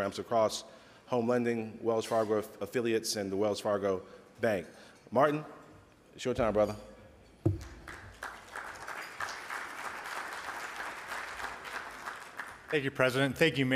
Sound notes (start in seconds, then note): 7.5 audience applauds